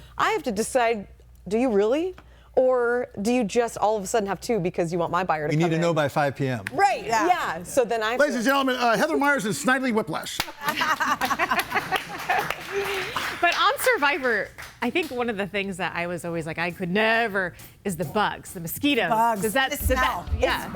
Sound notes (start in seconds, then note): 10.4 audience applauds; 10.7 everybody laughing